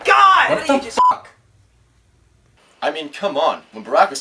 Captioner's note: beeping